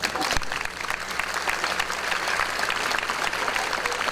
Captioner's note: audience applause